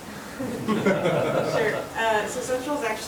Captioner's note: attendees laughing